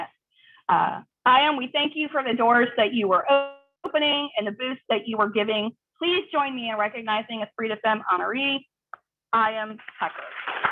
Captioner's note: applause